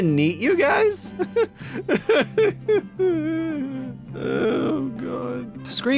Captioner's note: cries